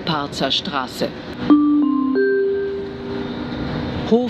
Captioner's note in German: Gong